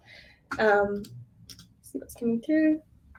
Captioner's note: keyboard clicking